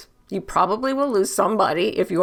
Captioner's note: none